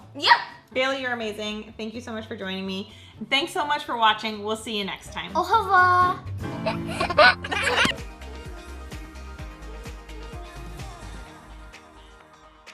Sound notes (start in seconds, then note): 5.6 speaks in foreign language; 6.6 baby laughing; 8.0 soft upbeat music